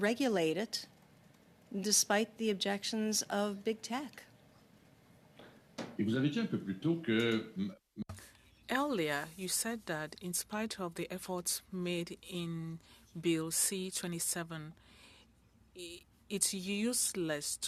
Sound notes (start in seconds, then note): 12.5 speaking French